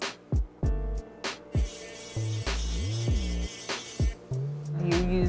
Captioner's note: sander whirring